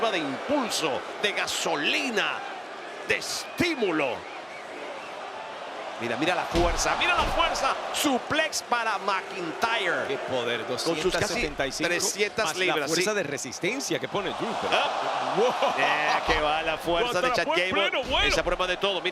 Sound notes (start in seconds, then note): 14.9 laugh